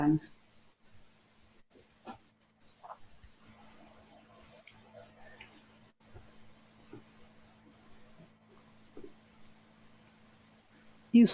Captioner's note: pauses 10 seconds